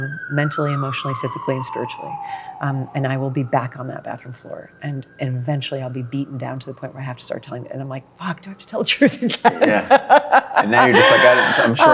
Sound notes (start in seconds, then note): 0.0 sirens blare louder; 5.1 sirens fade; 9.2 laughs